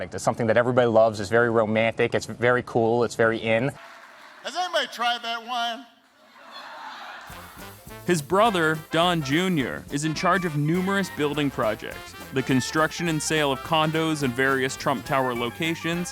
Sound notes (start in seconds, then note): 6.4 laughter